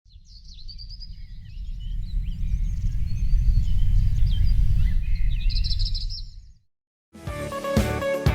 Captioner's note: pájaros trinando